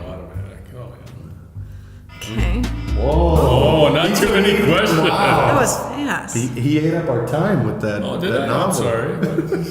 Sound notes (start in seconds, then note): 5.0 alarm ringing